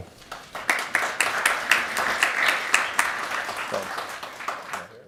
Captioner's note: crowd applauding